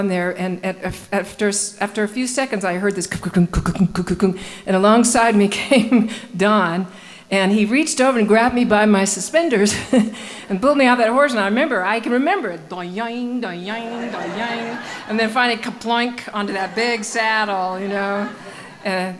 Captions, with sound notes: stuck on there and after a few seconds I heard this (mimicking clunking) and alongside me came Don and he reached over and grabbed me by my suspenders and pulled me off that horse and I can remember (mimicking boinging) and then finally ploink onto that big saddle.